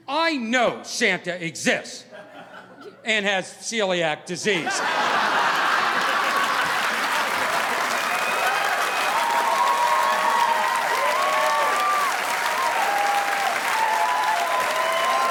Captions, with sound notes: I know Santa exists, and has celiac disease." (audience laughing) (audience applauding)